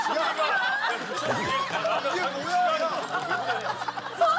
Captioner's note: Laughing at the owner's joke